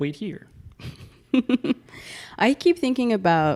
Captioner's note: laughing